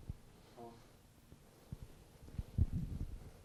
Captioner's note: mic sounds